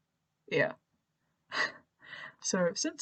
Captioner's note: laughs